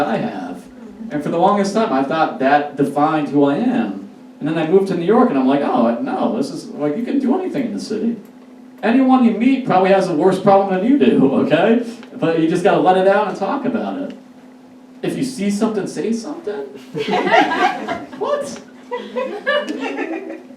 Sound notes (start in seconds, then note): 16.8 audience Laughs